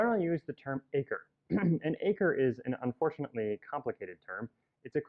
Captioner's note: cough